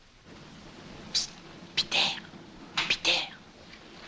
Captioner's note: whispering